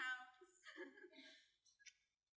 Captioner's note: giggling